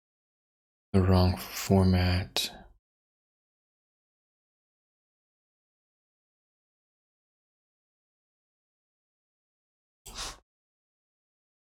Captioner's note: blank Audio